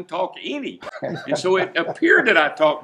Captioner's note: laughing